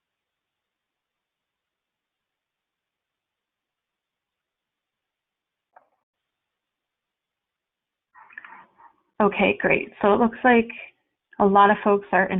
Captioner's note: silence